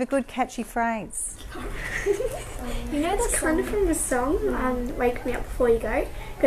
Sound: laughs

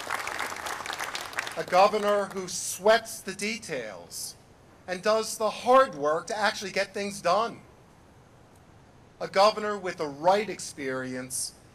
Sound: applause

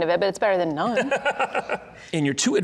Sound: laughing

